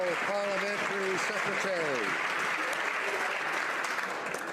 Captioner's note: some Applause